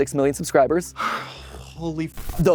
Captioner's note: sigh